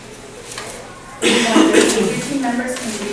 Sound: coughing

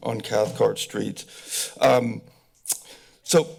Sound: tongue clicking

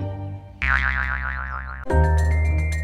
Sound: boing!

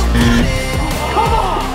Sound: buzzer

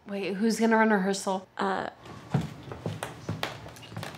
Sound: footsteps

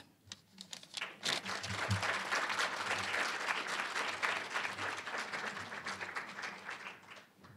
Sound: applause

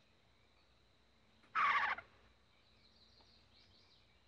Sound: Freckles cooing

